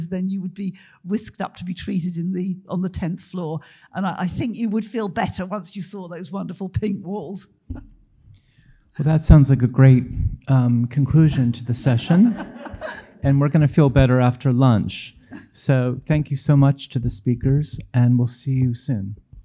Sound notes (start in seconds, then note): 11.1 audience laughing